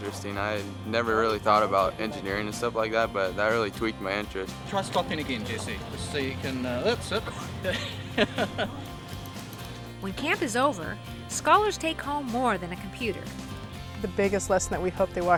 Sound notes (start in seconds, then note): 4.7 laughs